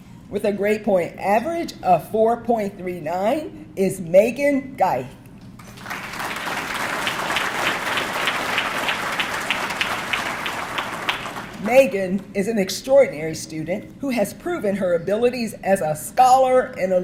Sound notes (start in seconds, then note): 5.5 audience clapping